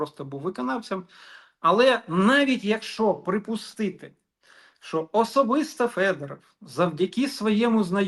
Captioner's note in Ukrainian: сопіння